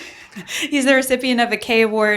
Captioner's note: chuckling